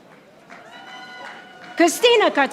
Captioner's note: audience applauding